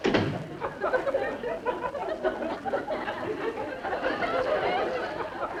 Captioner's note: audience laughing